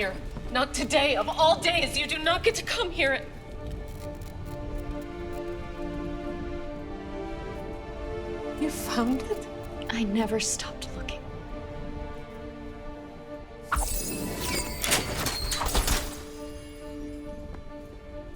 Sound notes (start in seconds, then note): 13.7 soft whooshing; 13.7 metallic clank